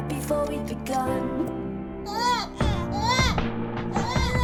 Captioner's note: both crying